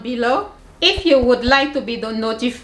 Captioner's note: air whooshing